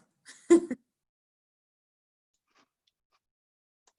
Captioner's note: laughs